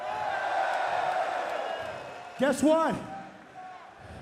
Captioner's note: crowd cheering